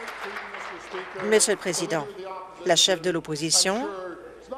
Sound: applause

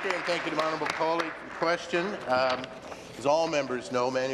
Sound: applause

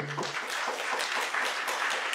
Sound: applause

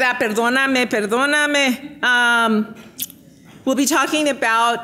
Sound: speaking in foreign language

